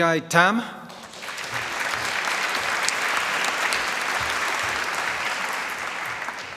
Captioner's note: applause